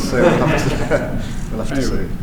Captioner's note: laughs